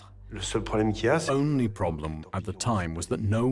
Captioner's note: voiceover